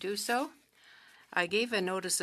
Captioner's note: speaking French